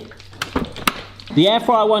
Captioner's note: air fryer clicking